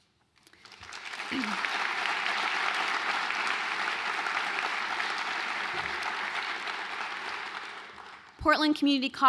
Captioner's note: applause